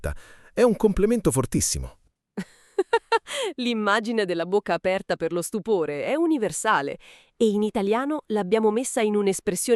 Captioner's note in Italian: risate